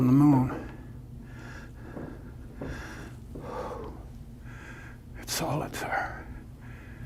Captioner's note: sigh of relief